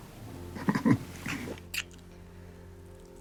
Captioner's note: chuckles